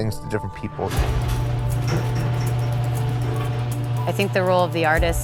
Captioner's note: garage opening